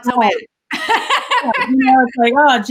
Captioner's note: laughs